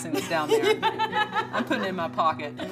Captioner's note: laughing